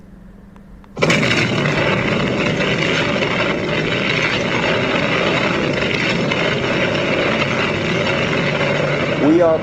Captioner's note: sounds of an explosion